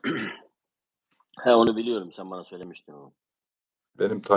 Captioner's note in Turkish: boğazını temizler